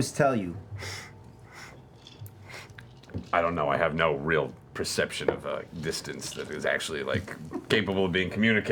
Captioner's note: sniffs